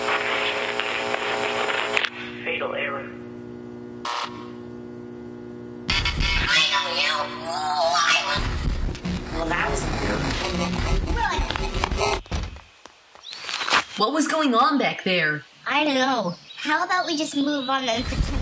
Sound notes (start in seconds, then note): 0.1 Static; 10.3 bitcrushed static